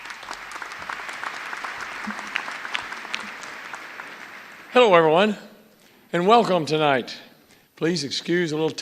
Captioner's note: applause